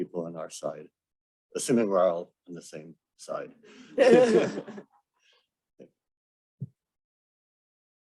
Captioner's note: laughter